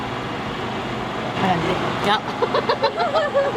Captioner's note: laughter